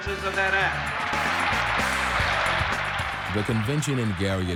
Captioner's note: applause